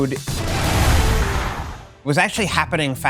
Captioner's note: explosion in game